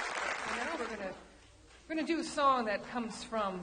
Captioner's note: audience applauds